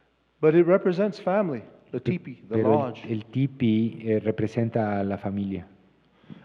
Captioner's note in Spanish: Expositor habla en inglés